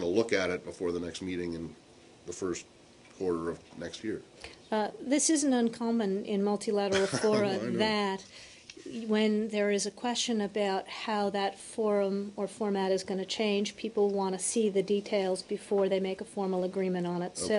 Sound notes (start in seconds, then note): 6.9 laughter